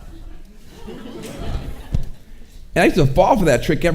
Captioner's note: audience chuckling